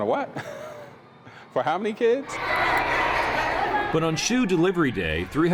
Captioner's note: laughing